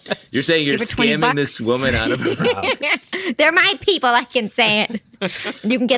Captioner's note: laughter